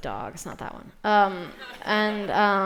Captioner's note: laughter